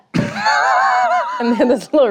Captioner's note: laughs